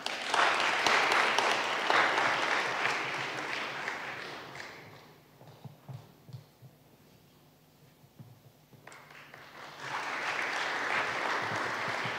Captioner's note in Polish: oklaski